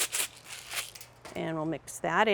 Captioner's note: bottle rattling